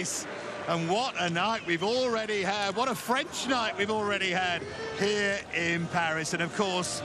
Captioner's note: cheers and applause